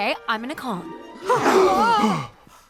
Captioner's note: gasp